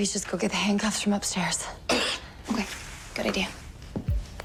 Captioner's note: clearing throat